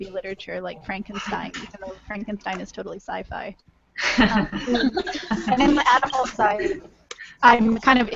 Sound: laughter

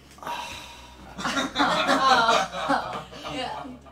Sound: laughing

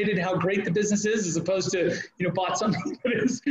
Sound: laughing

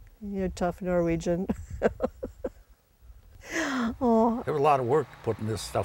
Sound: laughs

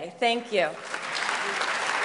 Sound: applause

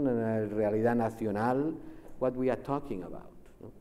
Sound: speaks Spanish

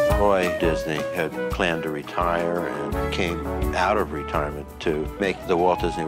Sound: voice off screen

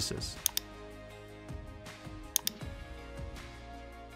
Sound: mouse clicking

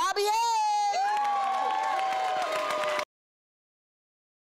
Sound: audience applause

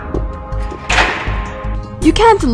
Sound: door

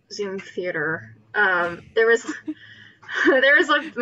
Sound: laughs

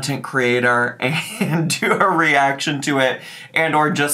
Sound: laughing

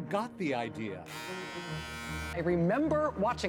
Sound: buzzer

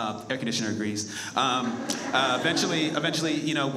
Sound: audience laughs

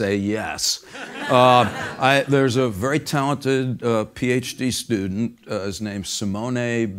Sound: laugh

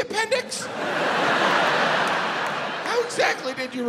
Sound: audience laughs

